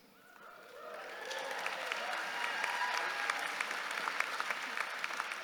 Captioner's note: audience cheering